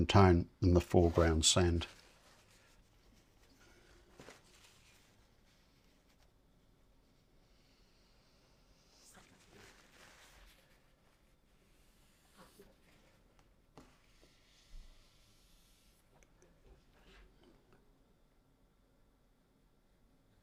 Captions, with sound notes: tone than the foreground sand. [silence] Paint through these rocks.